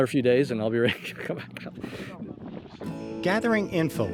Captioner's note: laughing